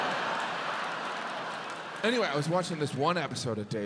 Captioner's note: audience laughs